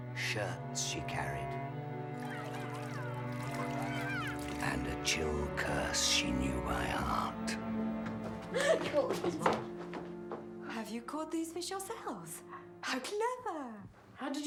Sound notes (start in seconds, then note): 2.6 princes shouting; 8.4 all laughing